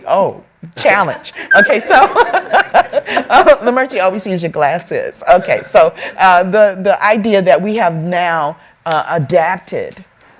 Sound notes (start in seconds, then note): 2.0 laughs